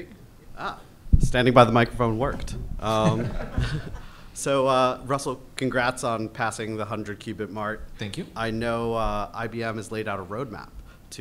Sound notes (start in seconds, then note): 2.8 all chuckles